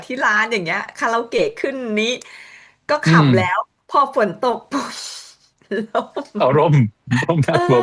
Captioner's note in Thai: เสียงหัวเราะ